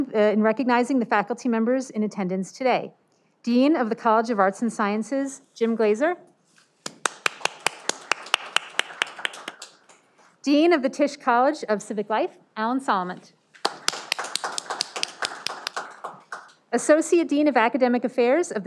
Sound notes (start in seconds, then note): 6.9 audience applauding; 13.6 audience applauding